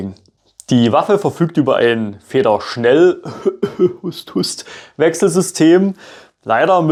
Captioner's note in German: Hust *Hust